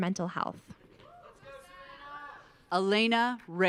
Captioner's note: audience cheering